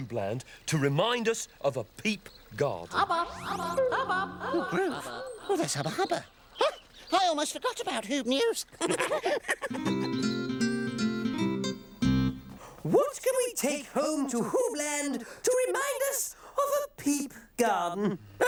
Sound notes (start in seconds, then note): 2.9 echoing; 8.7 all chuckling; 18.0 chuckles